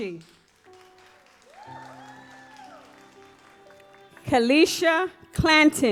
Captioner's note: audience applauds